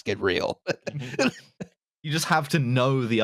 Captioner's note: laughter